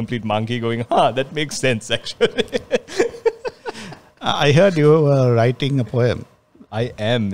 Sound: laughs

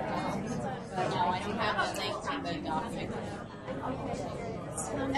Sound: voiceover

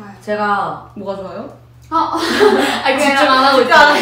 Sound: nervous laughter

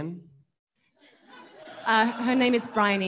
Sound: audience laughing

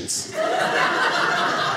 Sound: audience laughing

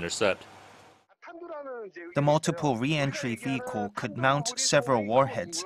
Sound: Korean

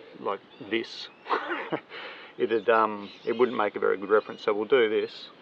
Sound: laughing

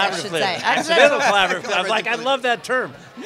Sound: laughter

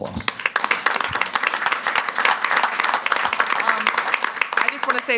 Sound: everyone claps

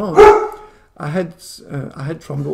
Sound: dog barks and distracts

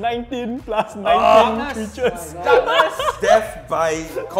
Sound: players chattering; laughs

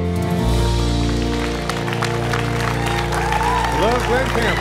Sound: cheers and applause

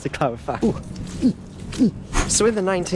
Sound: incoherent sounds of inconvenience

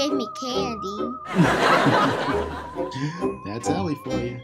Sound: audience laughing

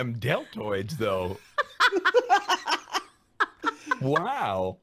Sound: laughing

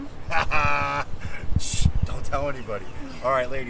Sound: laughs

